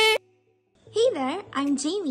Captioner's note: poof